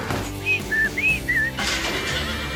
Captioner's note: horse braying; whistling